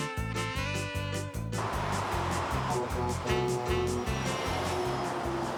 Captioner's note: truck horn honks